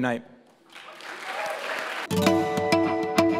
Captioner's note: applause